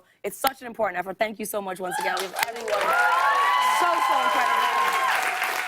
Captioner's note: cheers and applause